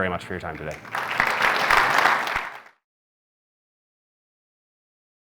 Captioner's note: audience applauding